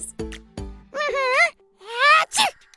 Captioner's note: sneezes